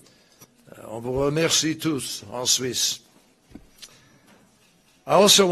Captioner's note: in French